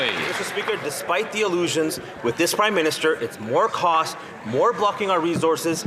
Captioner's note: some Applause